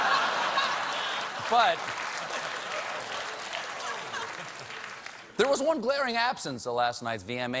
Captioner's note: laughter; applause